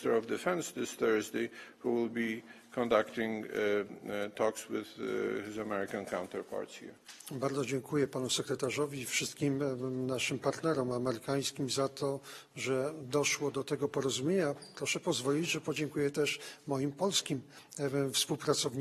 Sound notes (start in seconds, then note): 13.5 speaking polish